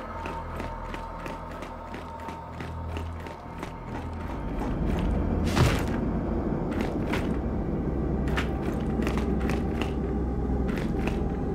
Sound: footsteps

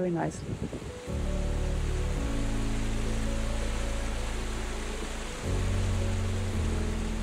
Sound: gentle music; water cascading

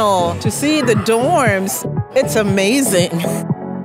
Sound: laugh

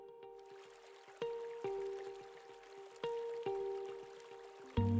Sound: river water running

